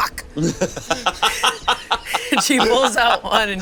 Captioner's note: all laugh